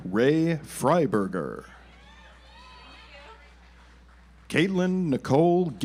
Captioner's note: audience applauds